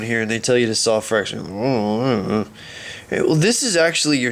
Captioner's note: grumbling